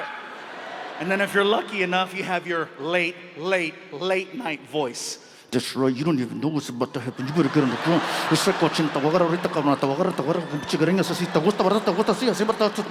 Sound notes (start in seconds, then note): 0.1 audience laughs; 8.1 speaking in foreign language